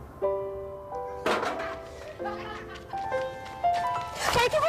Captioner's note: banging, children laughing